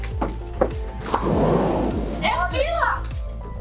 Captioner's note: door sliding